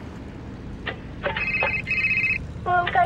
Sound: phone ringing

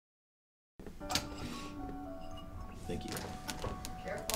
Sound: soft upbeat music; sound of dishes clinking

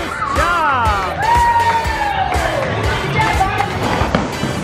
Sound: cheering

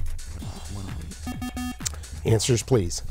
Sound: bell

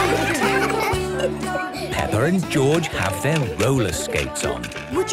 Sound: laughter; giggling

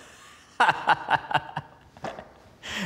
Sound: hearty laugh

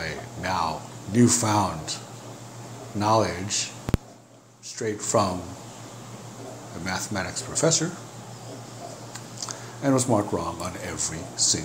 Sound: laughs

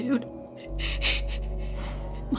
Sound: chuckle

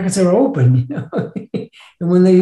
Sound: laughs

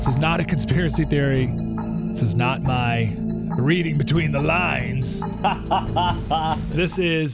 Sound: laughs

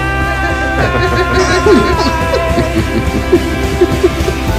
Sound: both laugh

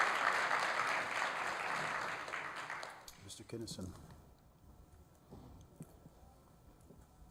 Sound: applause

